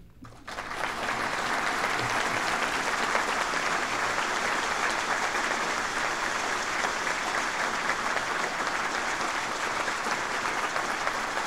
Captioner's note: applause